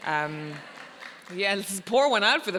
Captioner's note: audience applauding